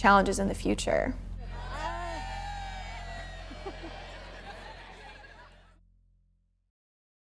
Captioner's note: cheering